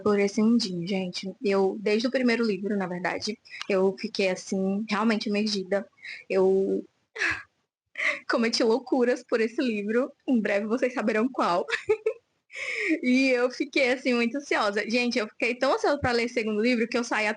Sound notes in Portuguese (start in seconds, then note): 11.6 risadas; 12.3 suspirando